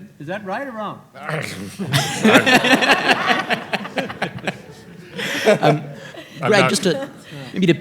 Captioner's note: all laughing